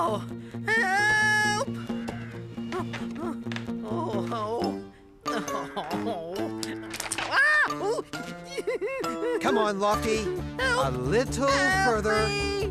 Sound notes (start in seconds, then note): 7.2 creak!; 7.3 Spud Crying